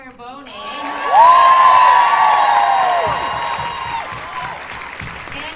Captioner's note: cheers and applause